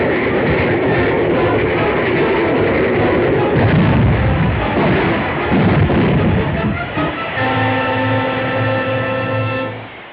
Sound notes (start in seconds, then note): 3.0 train banging